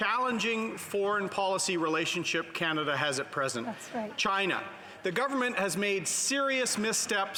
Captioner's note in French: voix de l'interprète